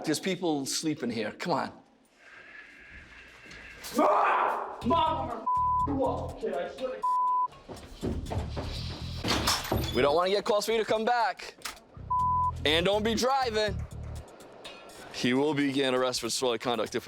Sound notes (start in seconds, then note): 3.9 yells indistinctly